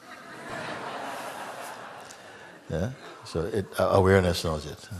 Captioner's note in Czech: smích